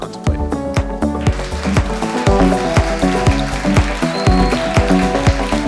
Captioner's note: audience applauding